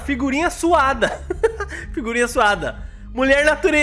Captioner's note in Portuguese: risos